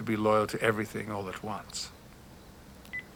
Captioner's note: phone beeps